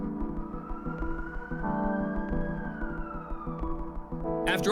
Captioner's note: police siren